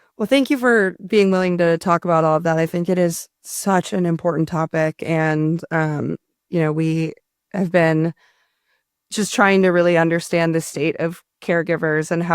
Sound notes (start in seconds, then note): none